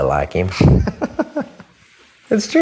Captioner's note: laughs